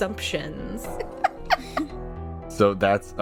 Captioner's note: laughter